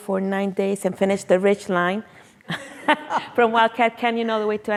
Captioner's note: laughs